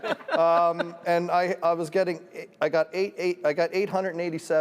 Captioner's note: laughter